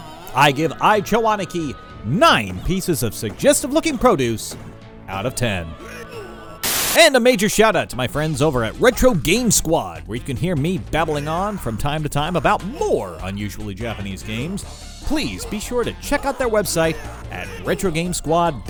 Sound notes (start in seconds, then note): 6.6 TV static